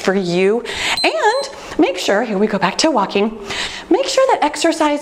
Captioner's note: timer beeps